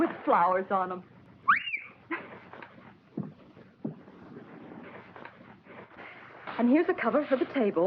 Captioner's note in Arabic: هانك يصفر; كوني تضحك